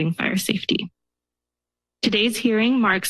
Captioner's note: pause